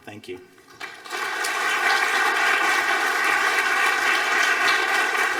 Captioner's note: audience applauding